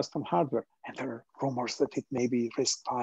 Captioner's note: in a stage whisper